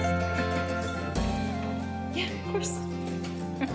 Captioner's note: whispering